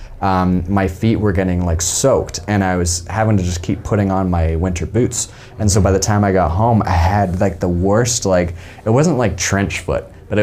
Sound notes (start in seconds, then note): none